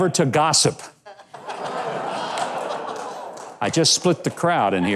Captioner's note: audience laughs